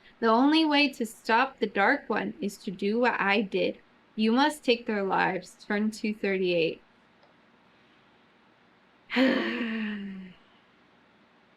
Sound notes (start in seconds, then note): 9.1 sighs